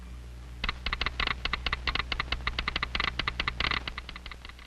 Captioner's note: telegraph clicking